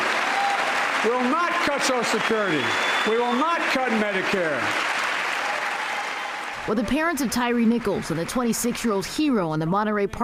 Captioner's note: applause